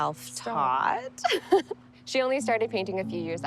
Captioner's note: laughing